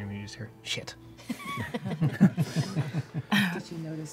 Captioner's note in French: rires